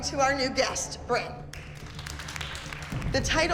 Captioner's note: clapping